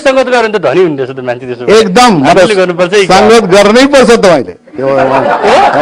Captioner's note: laughter